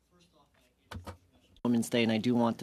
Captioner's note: speaking French